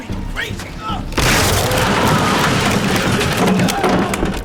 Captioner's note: wood smashing